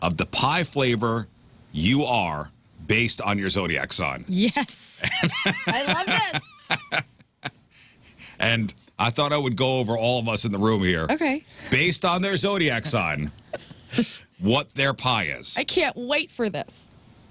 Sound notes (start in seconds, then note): 5.0 laughing